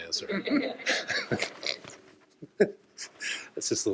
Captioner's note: laughter